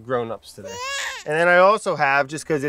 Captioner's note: baby crying